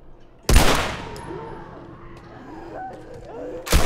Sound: gunshot; runner moans; distant shrieking; gunshot

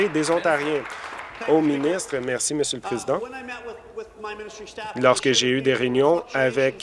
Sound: applause

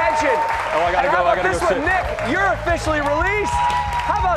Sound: cheers and applause

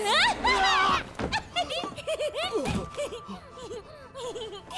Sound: laughing

